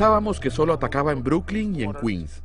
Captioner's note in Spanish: hablando en inglés